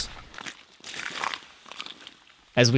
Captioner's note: ice crunching